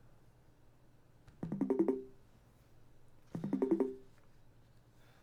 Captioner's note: video call ringing